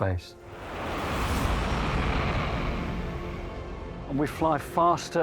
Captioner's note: jet engine roars